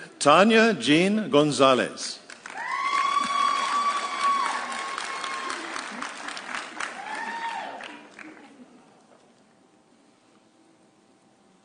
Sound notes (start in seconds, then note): 2.5 audience cheering